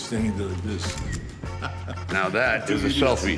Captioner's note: camera clicking